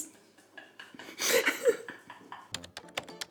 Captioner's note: laughs